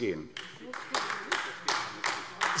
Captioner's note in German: Beifall AfD